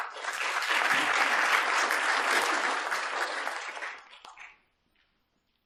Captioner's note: applause